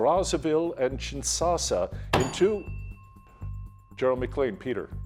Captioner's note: bell dinging